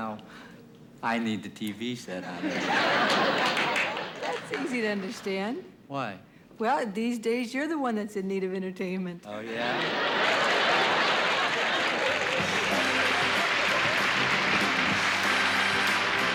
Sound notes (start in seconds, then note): 2.2 laughter; 9.5 laughter; 11.5 applause; 12.3 upbeat music